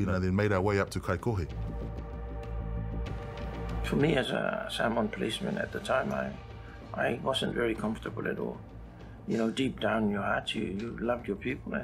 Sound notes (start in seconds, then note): none